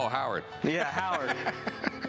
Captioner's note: laughs